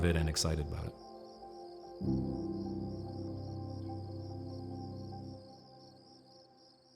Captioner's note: crickets chirping; gentle music